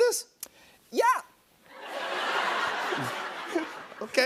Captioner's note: laughter